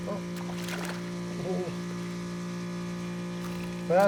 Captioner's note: fish splashing